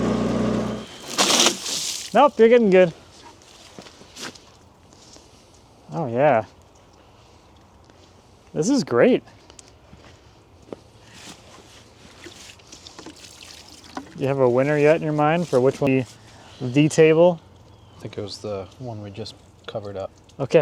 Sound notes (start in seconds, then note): 0.8 water splashes